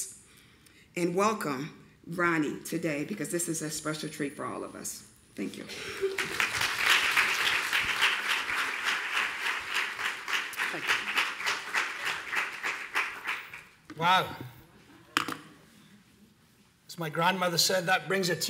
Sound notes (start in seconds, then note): 6.0 applause